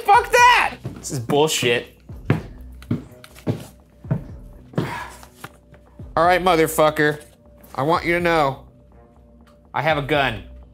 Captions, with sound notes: Fuck that! This is bull shit. (footsteps treading) All right, motherfucker, I want you to know I have a gun.